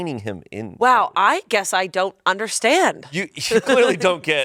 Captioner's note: laughs